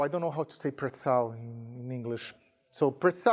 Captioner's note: speaking in a foreign language